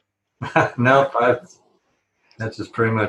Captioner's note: laughs